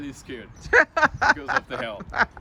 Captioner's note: laughs loudly